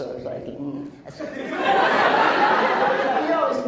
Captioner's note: laughs